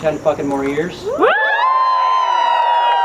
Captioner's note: crowd